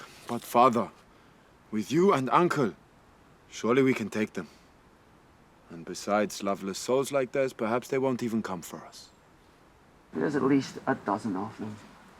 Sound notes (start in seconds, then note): none